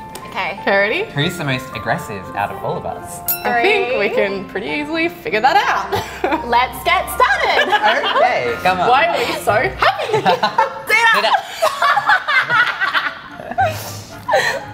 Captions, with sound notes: - Okay. - Okay, ready? - Who's the most aggressive out of all of us? - I think we can pretty easily figure that out. - Let's get started! - Okay, come on. - Why are we so happy? - Zeta. - Zeta. (laughing)